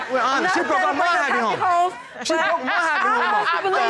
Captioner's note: overlapping chatter